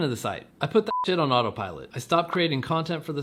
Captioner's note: beep